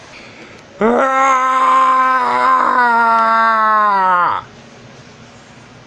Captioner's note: Sombra Screaming